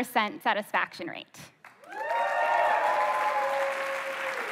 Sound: applause

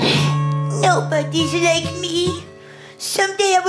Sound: sigh

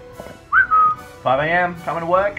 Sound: whistles

